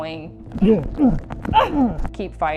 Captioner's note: aggressor grunting